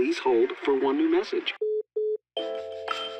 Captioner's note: beeping